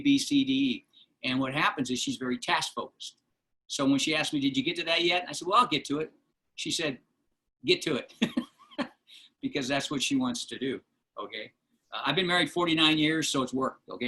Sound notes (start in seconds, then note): 8.1 laughter